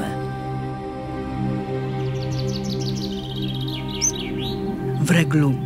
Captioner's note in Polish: słychać śpiew zięby